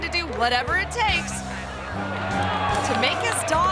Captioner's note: crowd applauding